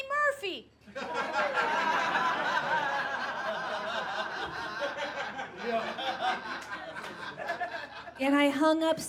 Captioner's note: audience laughs